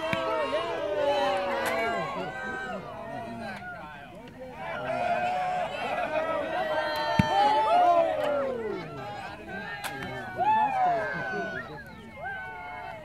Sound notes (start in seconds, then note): 1.9 crowd cheers and shouts encouragement